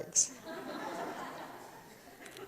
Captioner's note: audience laughs